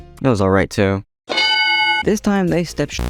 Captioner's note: ding